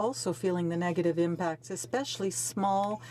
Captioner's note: speaking French